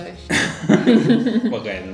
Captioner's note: laughs